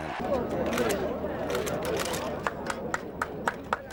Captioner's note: chattering; cameras clicking; applauding